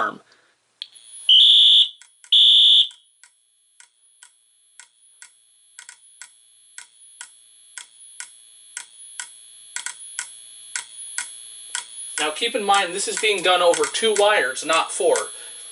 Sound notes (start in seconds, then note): 0.8 beep-beep; 2.9 module continues to click. Strobes emit a faint, high-pitched whine